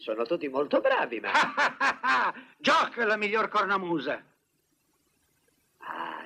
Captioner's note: laughs